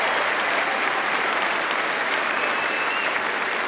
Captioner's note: applause